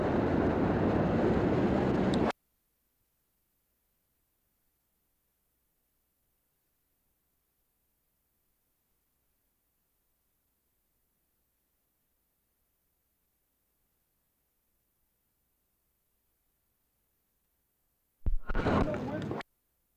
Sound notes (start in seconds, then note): 0.0 street noise; 2.4 silence; 18.3 street and crowd noise; 19.4 silence